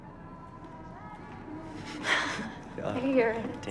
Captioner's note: chuckles